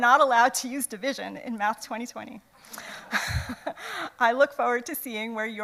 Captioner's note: laughs